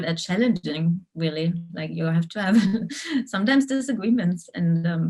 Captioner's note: giggles